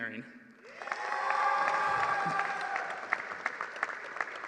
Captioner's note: applause